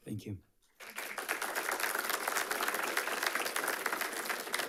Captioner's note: audience applauding